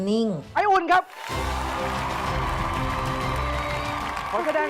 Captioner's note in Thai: เสียงดนตรีตื่นเต้น; เสียงปรบมือ